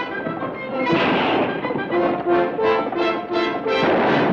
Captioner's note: gun fires